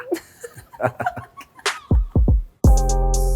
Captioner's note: laughing; calming music